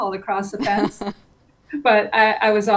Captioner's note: chuckles